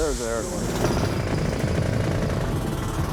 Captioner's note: whirring